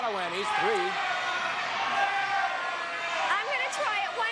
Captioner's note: audience shouting